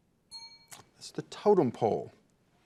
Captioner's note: bell dings